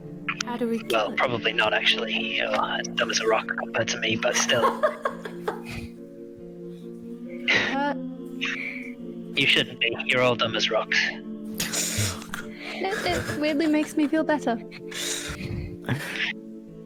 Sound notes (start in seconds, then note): 4.3 laughter; 11.6 offended snickering